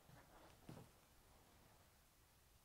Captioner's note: footsteps move away